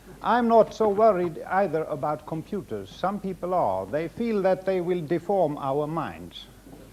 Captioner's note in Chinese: none